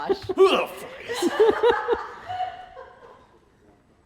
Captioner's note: all laugh